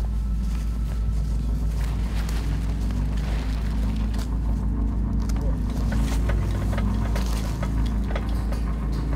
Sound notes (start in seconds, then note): 3.4 music becomes more tense; 6.9 quiet, metallic sounds